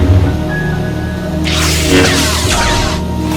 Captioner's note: sword ignition